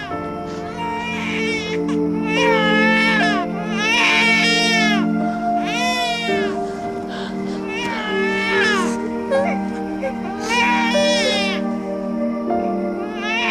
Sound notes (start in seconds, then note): 2.2 baby crying